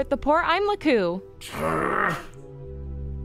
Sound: growling

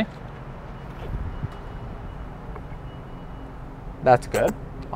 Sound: traffic and air whirring

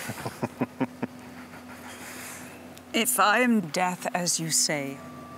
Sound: Alister laughing

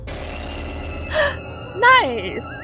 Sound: gasp

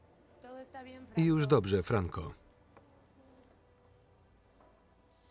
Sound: speaking foreign language

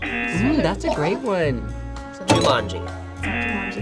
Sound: bell dings; klaxon sounds; bell dings; klaxon sounds

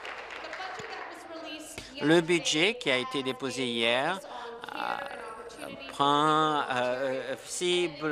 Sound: applause

